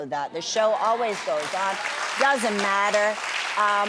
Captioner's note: audience applauds